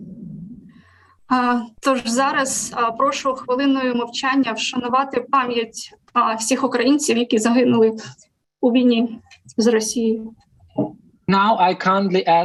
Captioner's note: foreign Language